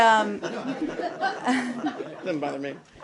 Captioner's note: laughter